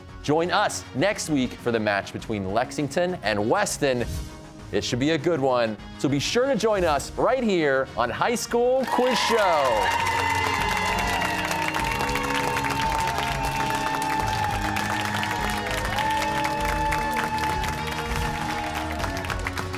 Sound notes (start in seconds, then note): 10.4 cheers and applause